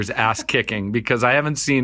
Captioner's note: laughing